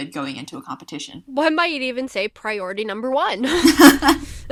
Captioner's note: laughs